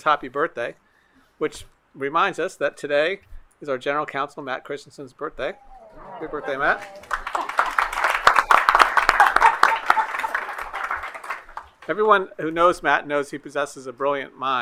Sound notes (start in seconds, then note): 7.8 applause